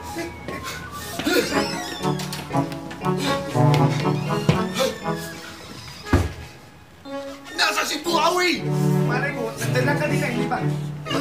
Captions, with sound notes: [grunting] Where is Buhawi? I don’t know. He was right there earlier, was he not?